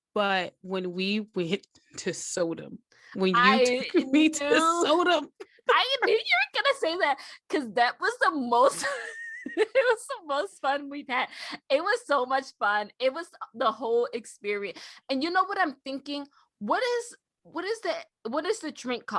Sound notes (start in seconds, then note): 3.6 giggles; 9.1 wheeze